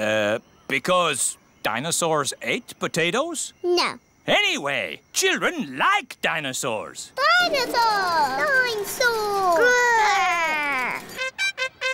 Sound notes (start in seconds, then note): none